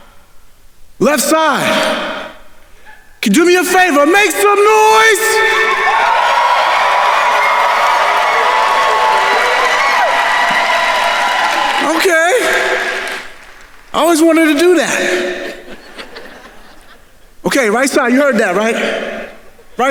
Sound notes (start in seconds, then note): 5.8 attendees cheering and applauding; 14.1 audience laughing